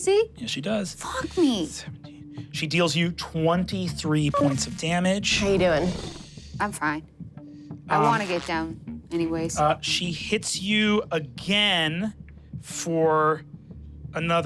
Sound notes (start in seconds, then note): 4.1 computer beeps; 5.2 engine powering down; 8.0 static crackling